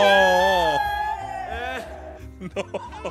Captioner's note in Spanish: gritan